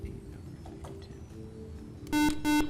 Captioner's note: buzzer